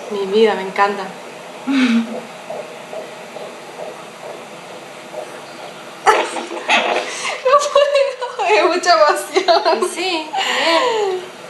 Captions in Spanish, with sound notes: Mi vida, me encanta. (Latidos de corazón) No puedo, me da mucha emoción.